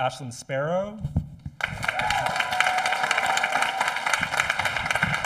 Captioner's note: audience applauding